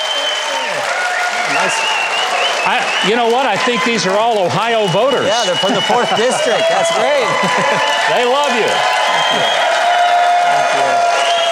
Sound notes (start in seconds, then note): 0.3 audience cheering; 8.8 audience cheering